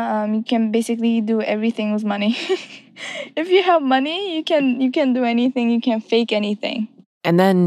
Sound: laughs

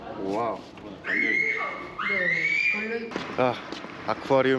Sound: kid screaming

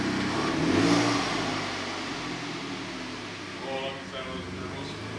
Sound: engine revving; talking drowned out by engine revving

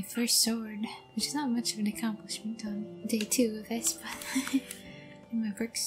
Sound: laughter

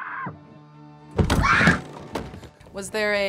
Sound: screams; dramatic instrumental music; thuds; screams

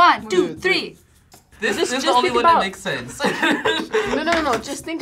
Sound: laughs

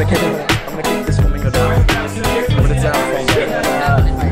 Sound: chattering

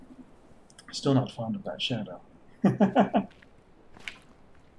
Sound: chuckles

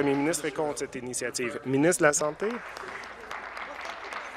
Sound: applause

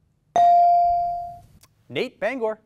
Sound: ding

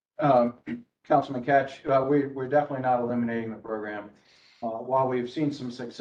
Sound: cough

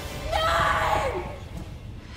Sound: screaming

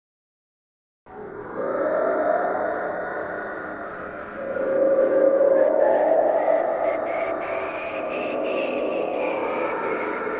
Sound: sound of tomb breathing

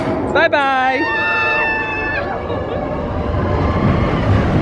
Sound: roller coaster hissing; screaming; guest screaming; track rattling

